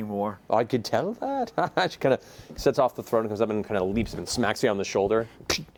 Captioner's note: laughs